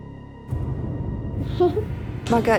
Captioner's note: giggles